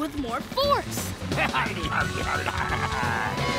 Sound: bleating

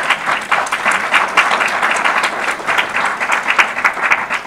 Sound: audience applause

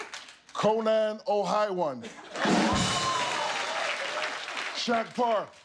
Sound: laughter

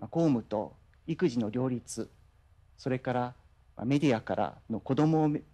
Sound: man speaking in foreign language

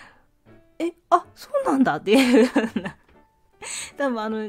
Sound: laughs

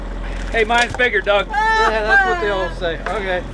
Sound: laughs

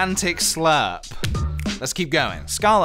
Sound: snap

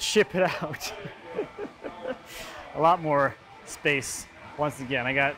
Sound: laughs

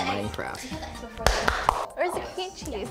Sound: clapping

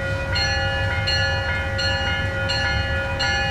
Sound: bell

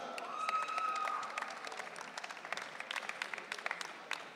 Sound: audience cheering

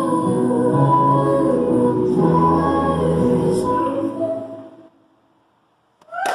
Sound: clapping

